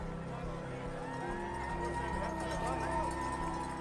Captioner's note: crowd cheering